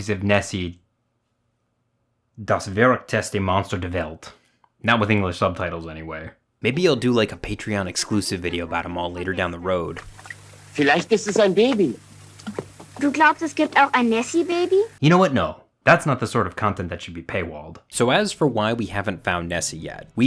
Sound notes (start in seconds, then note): 11.3 man speaking German; 13.2 girl speaking German